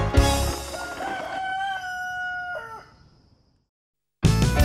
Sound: rooster crows

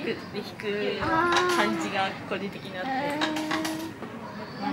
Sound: laughs

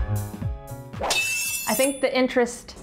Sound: knives sharpening

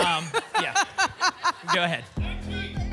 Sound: laughter

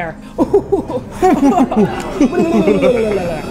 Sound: evil laughter

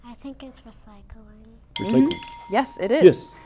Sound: bell rings

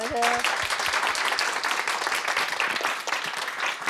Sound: audience claps

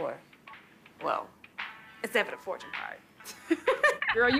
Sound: laughs

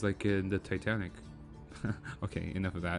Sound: laugh

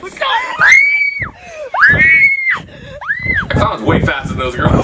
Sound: screaming

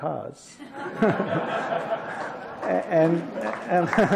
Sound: laughter

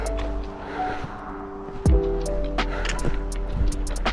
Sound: panting

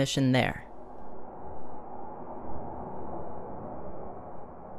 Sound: wind blowing

